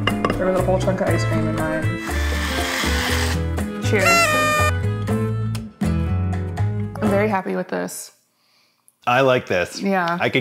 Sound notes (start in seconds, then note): 3.9 party horn blares